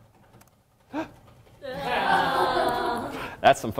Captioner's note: audience sighs